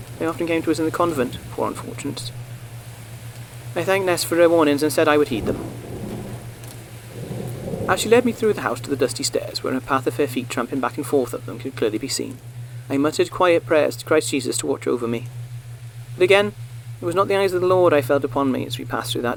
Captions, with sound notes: they often came to us in the convent, poor unfortunates. I thanked Nest for her warnings and said I would heed them. [RAIN BECOMES MORE MUFFLED] As she led me through the house to the dusty stairs, where a path of her feet tramping back and forth up them could clearly be seen, I muttered quiet prayers to Christ Jesus to watch over me. But again it was not the eyes of the Lord I felt upon me as we passed through that dark place.